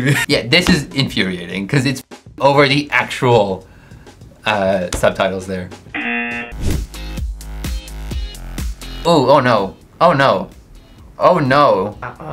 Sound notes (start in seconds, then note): 5.9 buzzer rings; 7.0 upbeat music